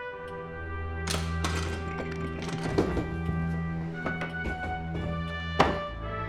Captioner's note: latch clicking; dramatic music